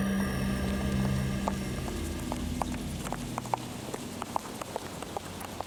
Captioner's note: footsteps clanking